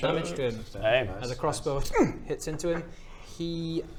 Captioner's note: hrgm